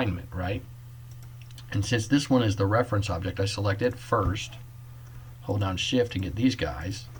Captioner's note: click